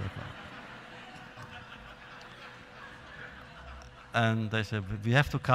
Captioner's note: laughter